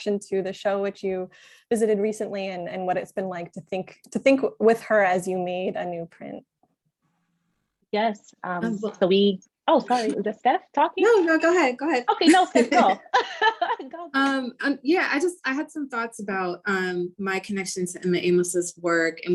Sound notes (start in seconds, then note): 12.2 laughter